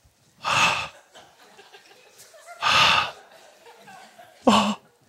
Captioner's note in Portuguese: suspiros